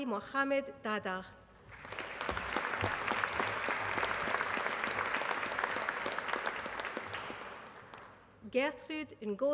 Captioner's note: applause